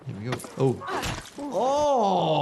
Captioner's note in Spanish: gruñido de soldado